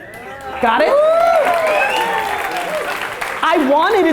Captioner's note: audience cheers